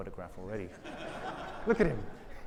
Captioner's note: audience laughing